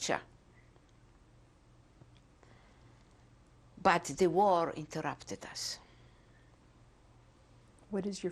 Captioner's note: pauses for 3 seconds